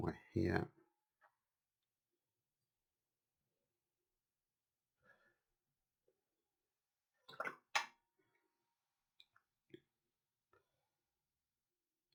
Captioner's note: silence